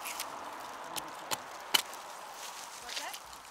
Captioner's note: chopping sounds